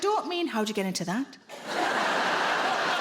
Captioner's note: sultry voice; audience laughing